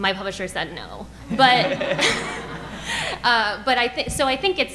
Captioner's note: audience laughing